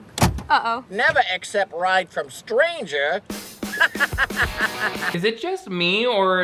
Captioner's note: evil laughing